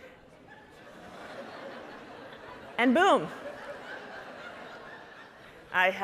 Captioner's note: audience laughing